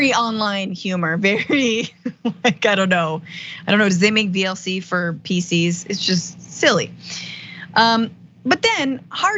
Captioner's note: laugh